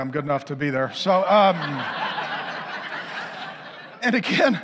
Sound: congregation laughing

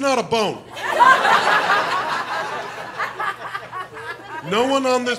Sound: laughter

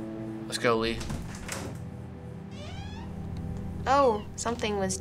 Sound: door clicks and squeaks open

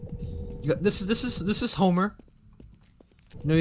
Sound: stammering

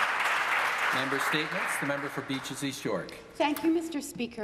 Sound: applause

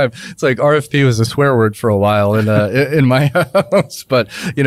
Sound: laughs

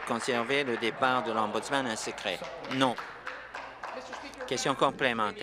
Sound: applause

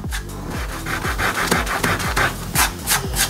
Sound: eraser rubbing; palm rubbing

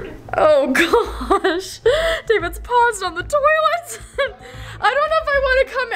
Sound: laughs

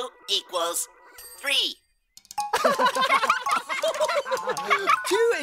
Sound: laughing

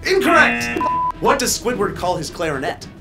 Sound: buzzer blares; beep

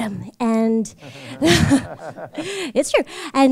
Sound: chuckle

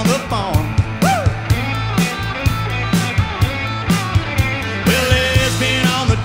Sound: guitar plays; whoops

